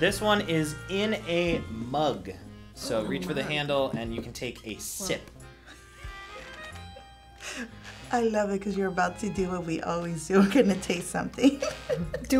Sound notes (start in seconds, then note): 5.6 laughs